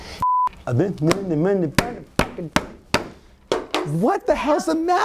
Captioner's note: beep; slapping